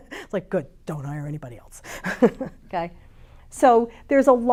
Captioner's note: chuckles; chuckles